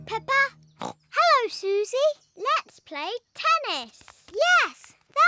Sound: snorts

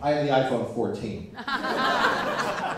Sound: laughter

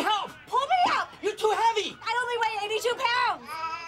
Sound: Bandit meows

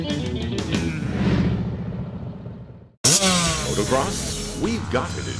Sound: motorcycle engine droning

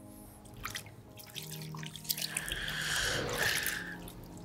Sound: water splashing

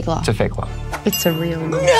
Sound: dings

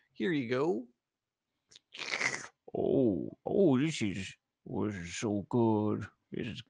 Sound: slurping sounds

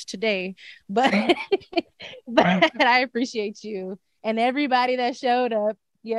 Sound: laughs

